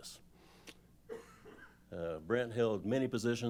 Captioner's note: cough